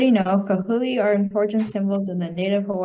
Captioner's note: student speaking in foreign language